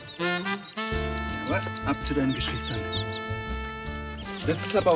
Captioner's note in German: Piepsen